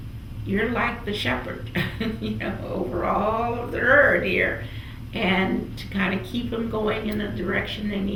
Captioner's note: laughs